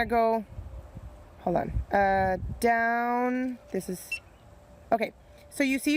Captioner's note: beeps